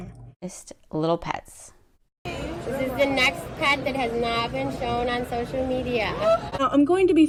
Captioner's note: crowd gasp